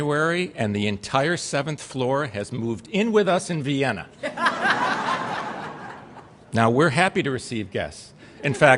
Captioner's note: laughter